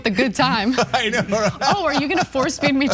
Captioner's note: laugh